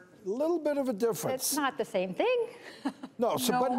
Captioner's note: laughs